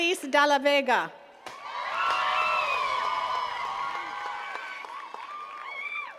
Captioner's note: attendees cheering and clapping